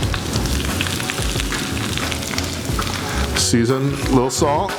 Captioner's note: soft music; oil sizzling